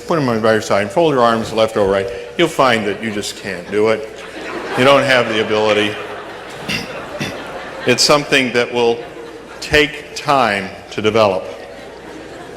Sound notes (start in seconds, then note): 2.7 laughter